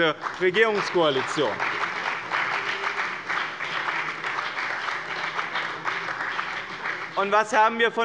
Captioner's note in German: Beifall bei dem BÜNDNIS 90/DIE GRÜNEN und der CDU